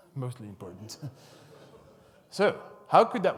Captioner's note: audience laughs